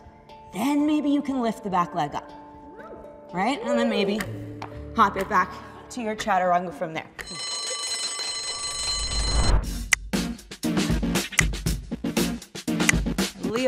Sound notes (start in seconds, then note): 7.2 alarm bell rings; 9.2 upbeat pop music